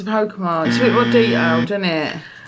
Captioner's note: buzzer blares